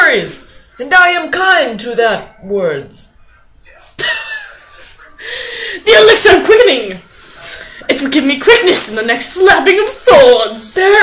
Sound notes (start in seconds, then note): 3.2 laughs